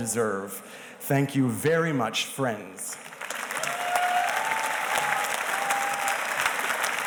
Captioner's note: audience cheers and applauds